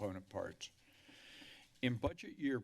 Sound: inhales

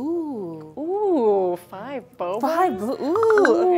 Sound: speaking in mandarin

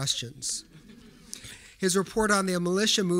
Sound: audience giggling

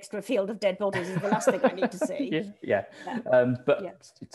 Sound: laughter

